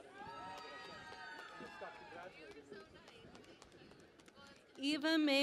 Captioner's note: cheering and Applause